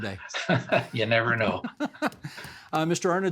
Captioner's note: laughing